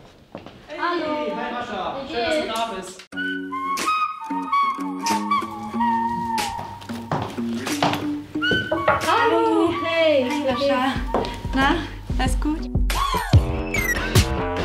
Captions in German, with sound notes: Hey! Hi, Rascha. - Hallo. Wie geht's? - Schön, dass du da bist. (Dynamische Musik) (Klopfen) Hallo! Hi, wie geht's? - Hi, Rascha. Na, alles gut? (Treibende Musik)